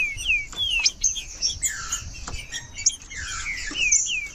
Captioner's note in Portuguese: trinca ferro cantando